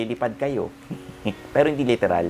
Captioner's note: laughs